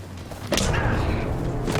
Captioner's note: smack